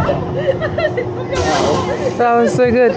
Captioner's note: pneumatic Brake Caliper releasing